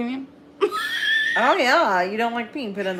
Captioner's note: laughs